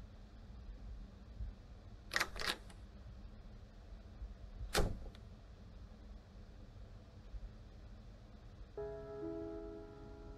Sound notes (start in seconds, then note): 2.2 door open